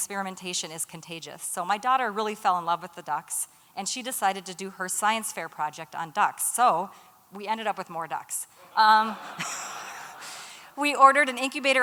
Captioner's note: laughter